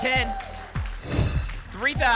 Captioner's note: whoosh